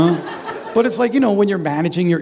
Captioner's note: laughter